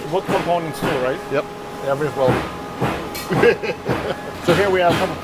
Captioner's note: laughs